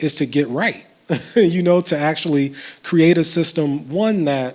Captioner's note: chuckles